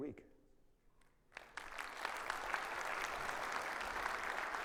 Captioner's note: audience applauding